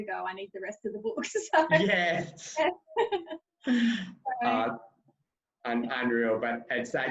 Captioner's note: laughing loudly